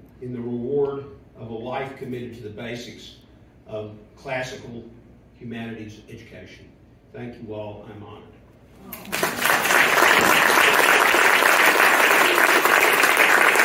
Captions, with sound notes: in the reward of a life committed to the basics of classical humanities education. Thank you all, I'm honored. *applause*